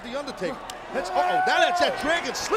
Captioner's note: Randy screaming